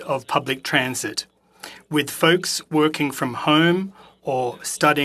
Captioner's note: speaking French